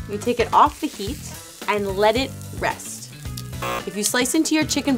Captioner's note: buzzer